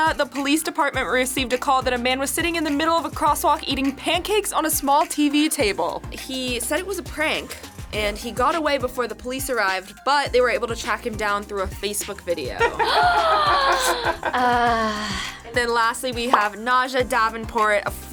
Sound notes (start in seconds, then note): 12.6 laughs; 12.6 gasps